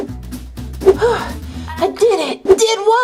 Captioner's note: loud sigh